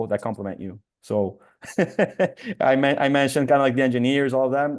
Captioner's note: laughs